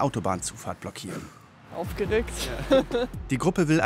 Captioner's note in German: Lachen